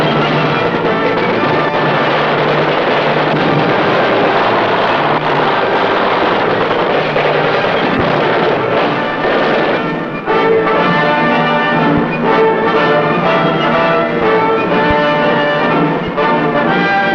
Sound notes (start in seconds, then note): 0.2 triumphant music; 8.8 explosions booming; 11.2 guns blasting; 13.5 explosions booming